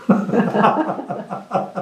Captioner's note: laughter